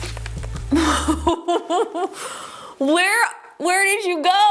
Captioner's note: presenter laughs